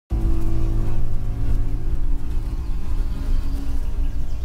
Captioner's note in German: Insekten summen